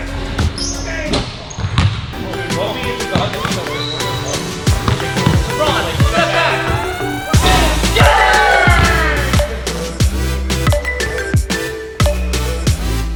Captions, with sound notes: Game! (ball hits rim) (ball bounces) (upbeat orchestral music) Lebron, steps back! (ball hits basket) (group cheers) (upbeat pop music)